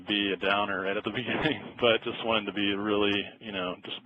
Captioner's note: laughs